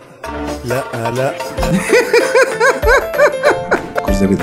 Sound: laughs!

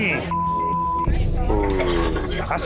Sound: beeping

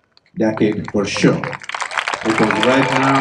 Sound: applause

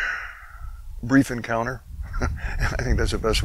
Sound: chuckles

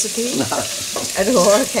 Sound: laughs

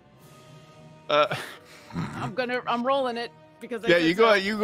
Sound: laughs

